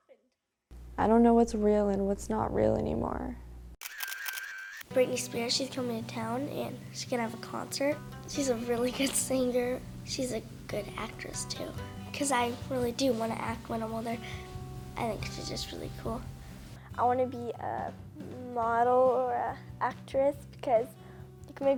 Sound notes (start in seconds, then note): 3.8 camera snapping; 9.6 chuckles